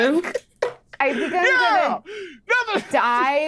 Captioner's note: laughs